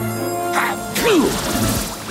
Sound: sneezing

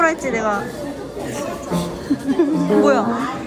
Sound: laughing

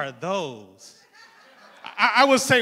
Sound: crowd laughing

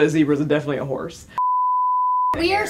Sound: beeping sound

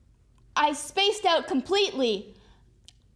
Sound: yelling

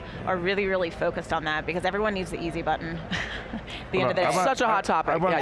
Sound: chuckles

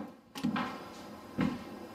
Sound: slam

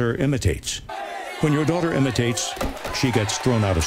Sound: students chanting; students cheers at girl

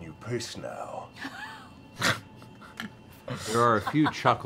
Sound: laughter

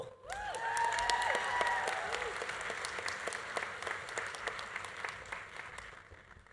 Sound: audience cheering; audience applauding

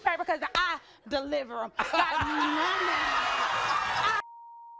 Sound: beep

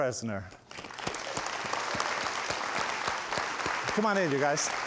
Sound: audience applauds

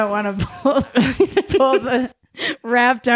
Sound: laughing

